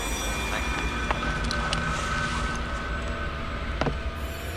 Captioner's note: popping